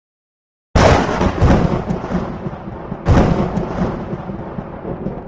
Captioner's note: lightning crackling